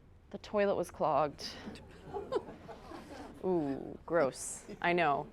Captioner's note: folks giggling